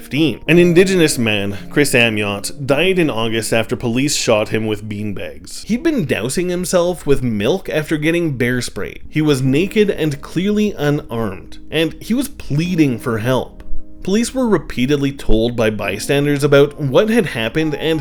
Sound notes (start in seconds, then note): 12.0 pleading